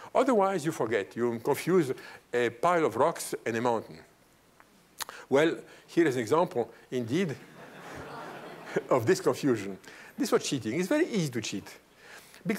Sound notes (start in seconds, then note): 7.4 laughter